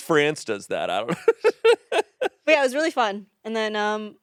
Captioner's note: laughs